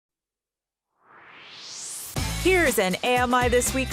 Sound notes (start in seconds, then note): 0.9 swoosh